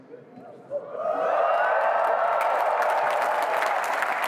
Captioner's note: cheering